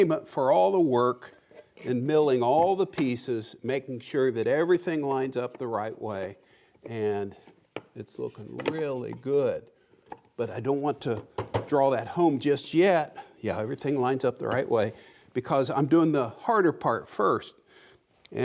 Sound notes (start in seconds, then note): none